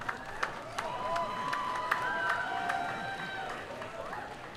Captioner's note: cheering